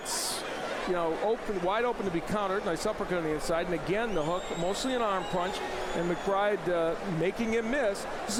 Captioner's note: applause